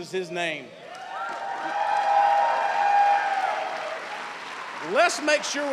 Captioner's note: cheers and applause